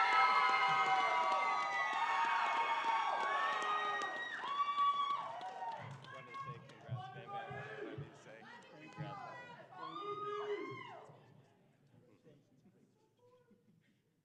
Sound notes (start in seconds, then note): 0.0 applause; 2.3 cheering